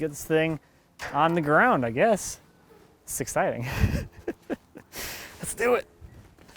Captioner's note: laughing